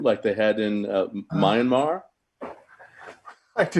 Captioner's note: sighing; chuckling